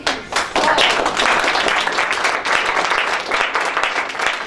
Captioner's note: applause